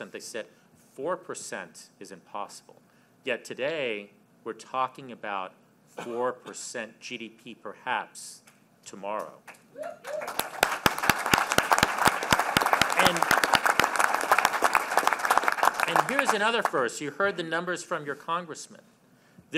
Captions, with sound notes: they said 4 percent is impossible. Yet, today, we're talking about 4 percent GDP, perhaps, tomorrow. (Applause.) And here's another first -- you heard the numbers from your congressmen: